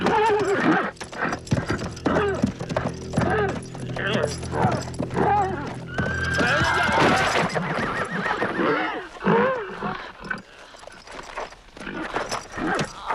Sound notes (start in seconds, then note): 6.4 horses neighing; 10.2 Hundra grunting